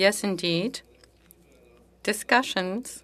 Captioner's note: speaking French